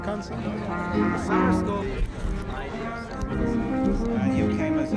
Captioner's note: indistinct chatter